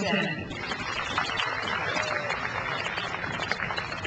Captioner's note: crowd applauds